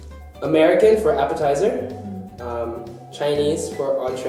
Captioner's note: none